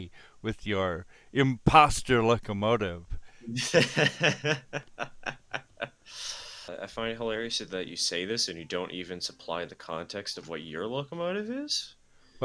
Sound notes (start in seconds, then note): 3.6 chuckles